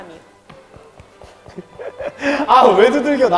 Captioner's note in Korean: 토닥 토닥